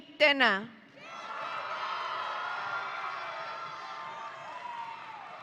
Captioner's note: audience cheering